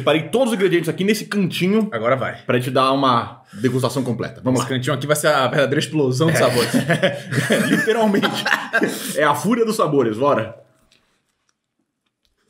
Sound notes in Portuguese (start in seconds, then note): 6.2 risos